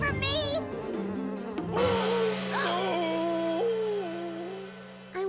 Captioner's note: gong!